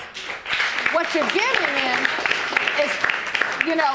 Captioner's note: audience applauding